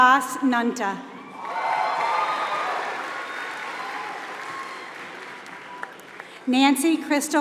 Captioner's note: applause